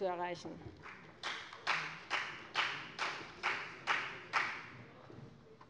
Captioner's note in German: Beifall bei der FDP